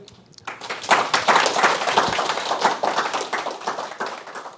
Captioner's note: applause